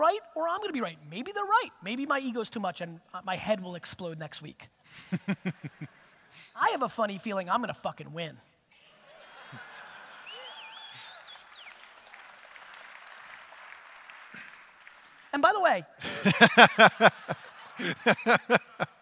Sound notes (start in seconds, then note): 5.1 audience laughter; 9.1 audience cheers; 16.0 audience laughter